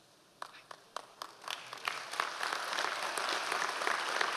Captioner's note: audience applause